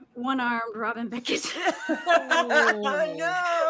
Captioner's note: all laughing